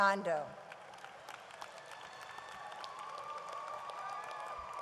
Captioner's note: audience applauds